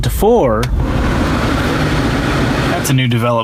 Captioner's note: loud air rushing